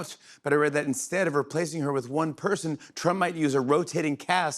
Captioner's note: none